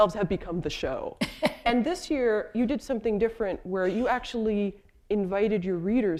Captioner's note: chuckle